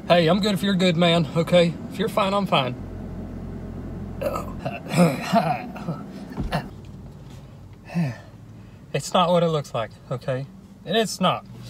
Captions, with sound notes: Hey I'm good if you're good man, okay? If you're fine I'm fine. Oh. (clears throat) Ah, it's not what it looks like, okay, it's not.